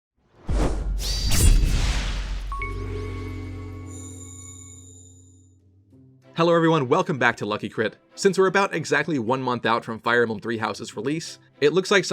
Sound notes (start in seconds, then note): 0.3 swoosh; 0.5 sword slash; 1.7 intro jingle